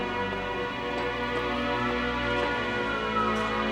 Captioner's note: siren screaming distantly